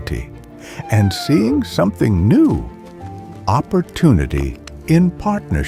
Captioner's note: wolf whining